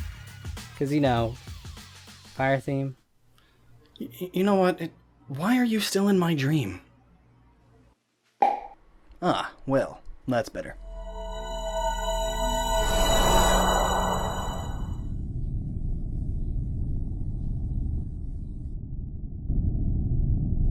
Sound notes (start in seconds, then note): 8.4 pop sound